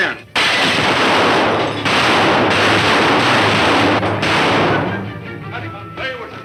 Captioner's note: gunshots firing; fast tense music; crashing